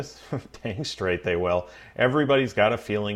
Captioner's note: laughs